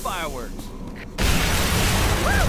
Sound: explosion

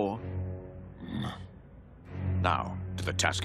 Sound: grunting

